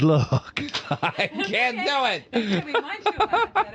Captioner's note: laughing